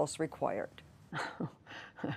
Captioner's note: laughter